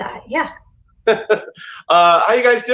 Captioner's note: laughs